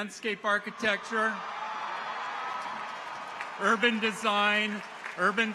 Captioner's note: people cheer; audience applauds